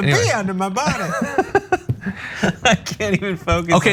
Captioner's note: laugh